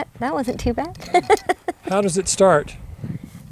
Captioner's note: chuckles